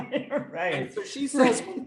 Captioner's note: laughs